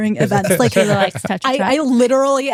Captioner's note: laughing